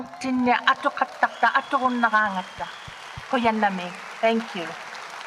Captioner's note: speaks native language; audience cheers and applauds